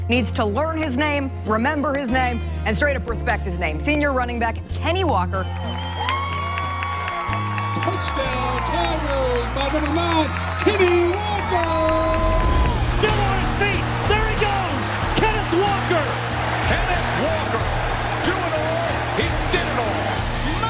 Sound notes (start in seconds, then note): 5.7 crowd cheering